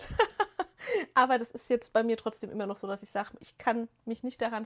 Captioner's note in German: gelächter